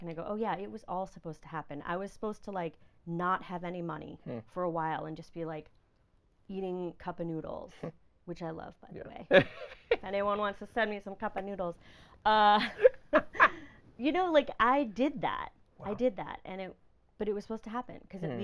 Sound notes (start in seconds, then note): 9.6 laughing; 12.6 laughing